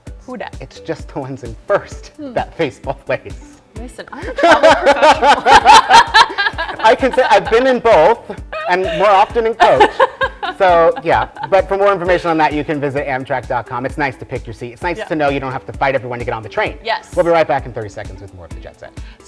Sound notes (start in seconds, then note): 4.2 laughing